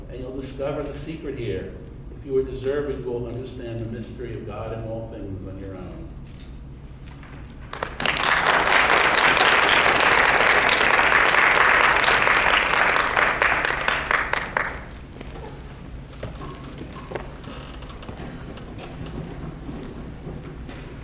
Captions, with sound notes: And you'll discover the secret here. If you are deserving, you'll understand the mystery of God and all things on your own. (audience claps)